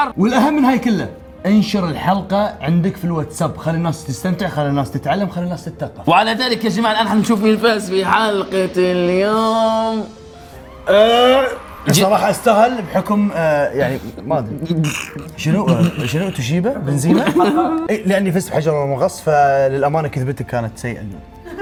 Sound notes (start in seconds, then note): 10.4 crowd cheers; 14.6 laughs